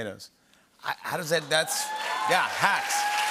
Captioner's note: cheering and applause